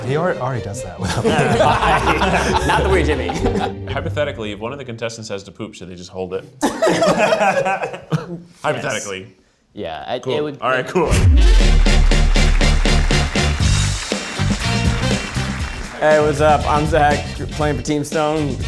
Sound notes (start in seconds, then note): 1.0 group laughs; 6.6 group laughs; 11.1 upbeat music; 11.3 audience applauding